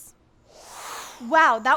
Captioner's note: air whooshing